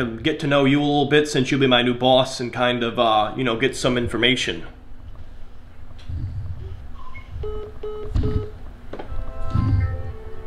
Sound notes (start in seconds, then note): 7.0 phone beeps